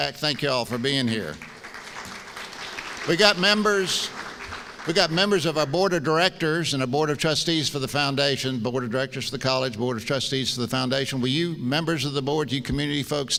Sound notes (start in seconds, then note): 0.3 applause